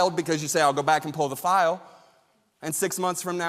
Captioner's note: none